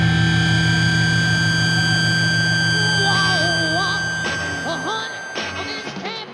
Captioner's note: feedback whines